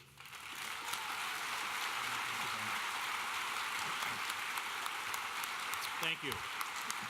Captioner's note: audience cheering and applauding